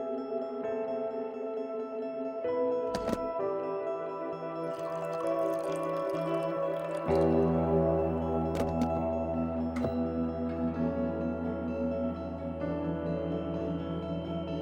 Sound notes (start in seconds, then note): 4.6 water being poured